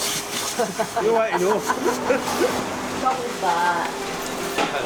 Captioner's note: people chuckling